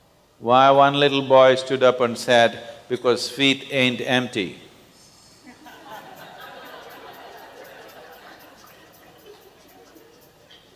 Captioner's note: laughter